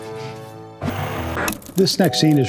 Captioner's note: static